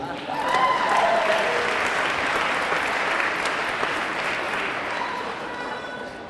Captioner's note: audience clapping; audience cheering